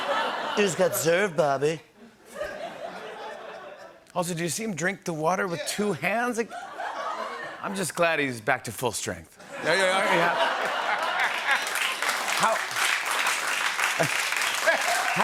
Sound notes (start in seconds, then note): 0.1 As Trump; 3.3 normal voice; 13.2 applause